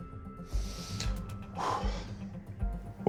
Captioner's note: exhales sharply